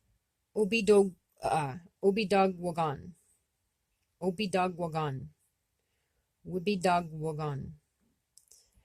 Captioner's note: speaking Abenaki Language